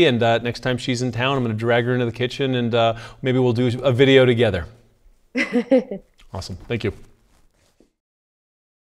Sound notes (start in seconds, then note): 5.4 laughs